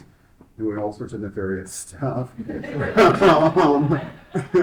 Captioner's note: laughs